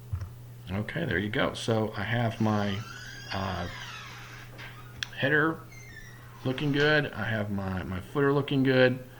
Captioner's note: screeching